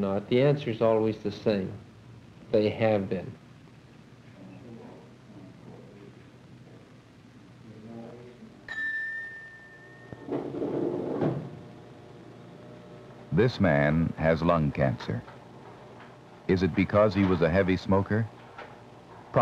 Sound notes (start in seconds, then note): 3.5 indiscriminate chatter; 8.7 elevator opens, then dings